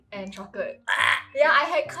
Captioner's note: puke noise